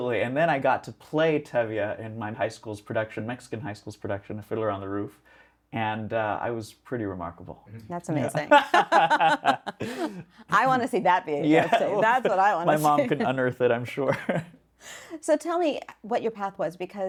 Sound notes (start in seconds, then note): 8.3 laugh